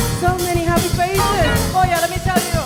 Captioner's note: speaking in Spanish